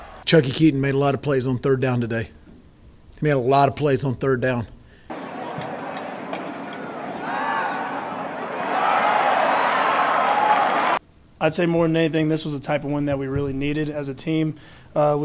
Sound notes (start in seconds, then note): 8.9 cheering